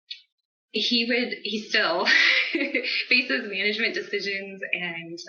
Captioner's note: laughs